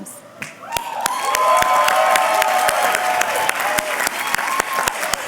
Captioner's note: cheers and applause